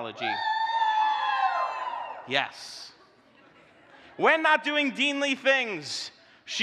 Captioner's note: audience cheering